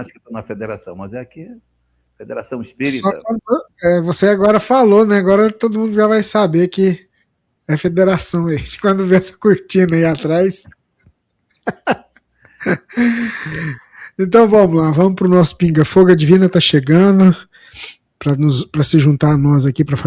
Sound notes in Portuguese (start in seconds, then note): 11.6 risadas; 12.5 suspirando